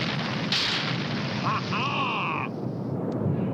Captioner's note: grinch laughs